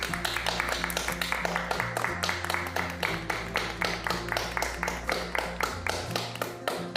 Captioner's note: applauding